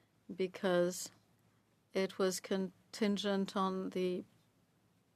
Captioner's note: speaking French